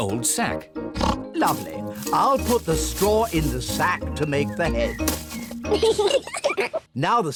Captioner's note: oinks; both giggle